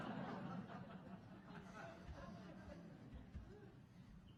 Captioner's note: audience chuckling